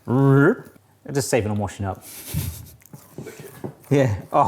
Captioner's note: chuckles